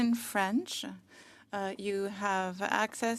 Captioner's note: speaking French